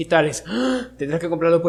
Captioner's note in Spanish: respirar